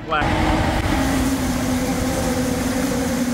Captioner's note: engine Revving